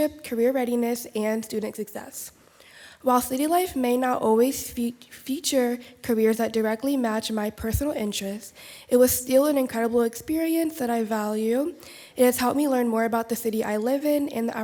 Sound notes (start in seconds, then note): none